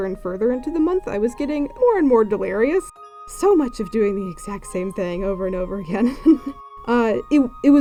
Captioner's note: laughs